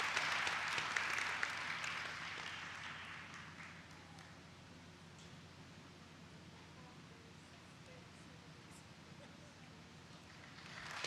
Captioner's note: applause